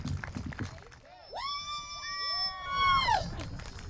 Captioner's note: cheers